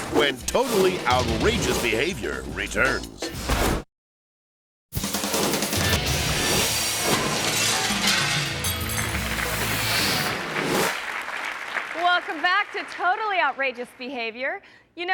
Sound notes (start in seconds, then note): 4.9 logo whooshing; 4.9 upbeat music; 6.6 glass breaking; 7.5 audience clapping